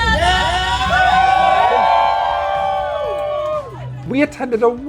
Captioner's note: Wastelanders cheer